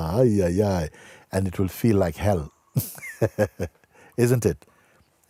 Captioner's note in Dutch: lacht